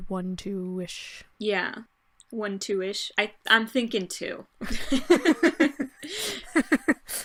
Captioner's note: laughter